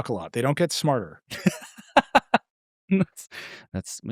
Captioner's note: laughing